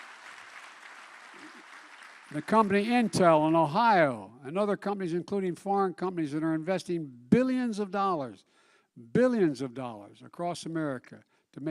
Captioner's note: applause